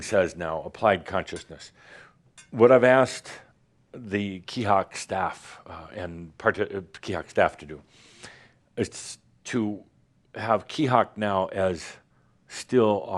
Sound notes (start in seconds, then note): none